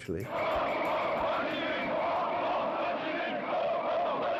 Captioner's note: crowd chanting